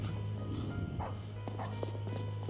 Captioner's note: dog barking